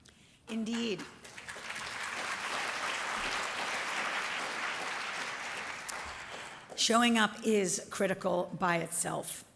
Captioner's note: applause